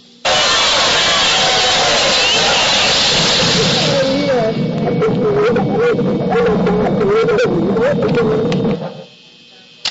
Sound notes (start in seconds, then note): 0.3 music & crowd noise; 2.9 boom; 3.4 ringing sound